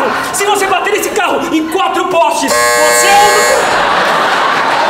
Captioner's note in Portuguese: campainha